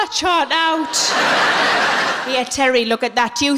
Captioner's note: laughing